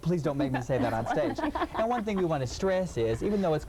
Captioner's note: laughing